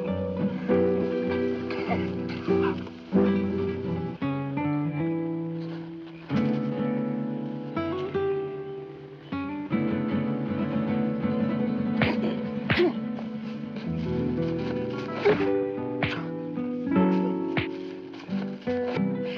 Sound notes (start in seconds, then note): 4.1 tense music; 12.0 punches thudding; 16.0 punches thudding